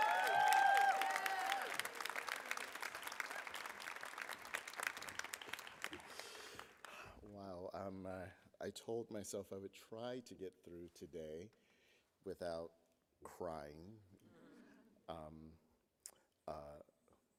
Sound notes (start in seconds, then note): 3.4 applause